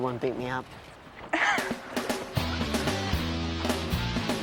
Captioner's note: Caitlin laughs